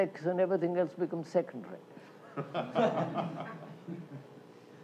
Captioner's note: laughter